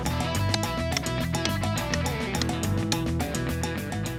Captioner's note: hammering